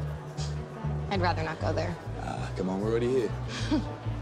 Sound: chuckles; laughs

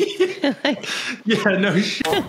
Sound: laughing

